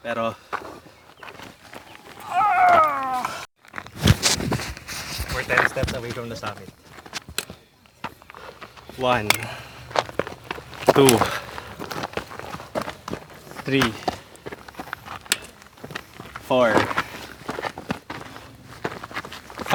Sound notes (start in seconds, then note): 1.9 groans; 11.4 footsteps; 15.3 trekking pole thumping; 17.5 footsteps